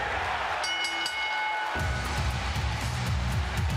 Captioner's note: crowd cheering; bell ringing